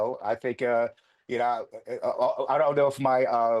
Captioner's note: laughing